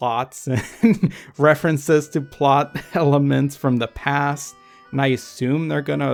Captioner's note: laughs